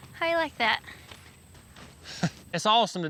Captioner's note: footsteps